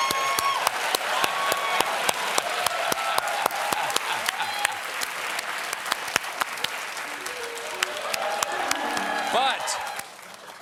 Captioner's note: cheers; applause